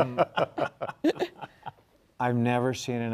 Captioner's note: panelists laughing